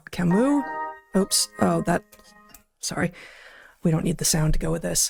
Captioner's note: phone Ringing